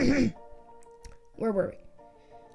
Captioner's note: ahem